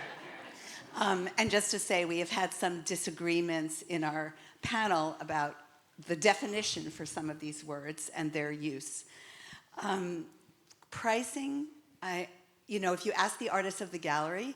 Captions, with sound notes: (audience laughing) And just to say, we have had some disagreements in our panel about the definition for some of these words and their use. Pricing, if you ask the artists of the gallery,